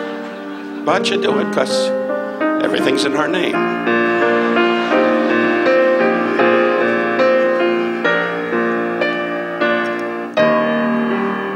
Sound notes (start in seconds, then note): 0.3 audience laughs; 4.7 audience laughs; 6.3 dramatic piano music